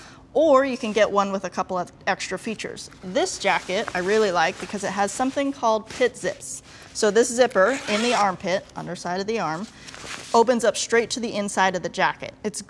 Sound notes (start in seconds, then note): 7.5 zipper screech